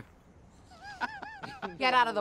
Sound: laughing

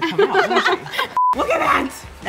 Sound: laughter

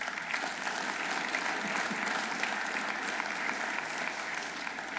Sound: audience applauding

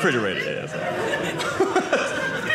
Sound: audience laughing

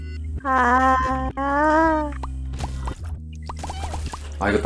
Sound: Cries like the president

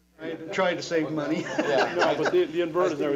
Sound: laughter

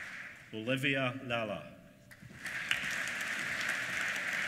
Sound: applause

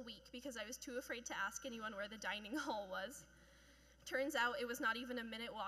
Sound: chuckling

